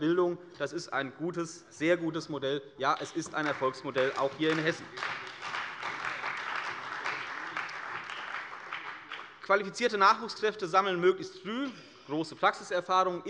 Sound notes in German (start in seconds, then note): 5.2 Beifall bei der CDU und dem BÜNDNIS 90/DIE GRÜNEN